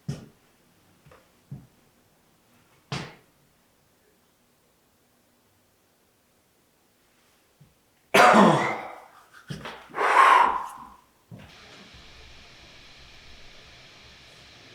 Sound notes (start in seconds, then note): 8.1 Jacob coughs; 9.8 air blowing; 11.7 static hissing